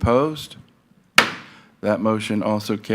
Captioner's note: gavel thuds